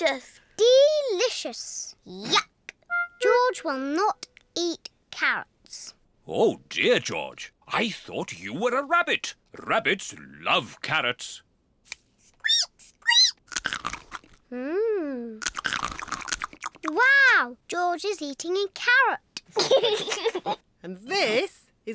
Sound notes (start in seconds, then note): 13.1 squeaks and crunches; 19.5 giggles